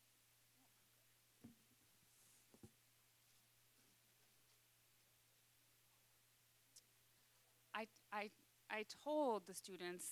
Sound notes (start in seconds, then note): none